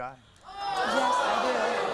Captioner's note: audience groans